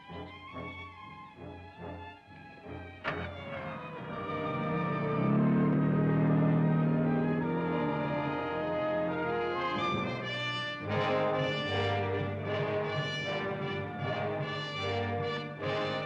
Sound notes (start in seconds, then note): 0.1 dramatic music; 3.6 engine revving